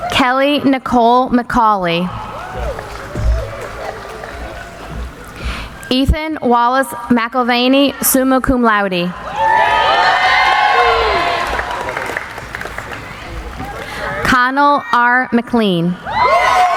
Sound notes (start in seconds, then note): 3.3 applauding; 9.2 cheering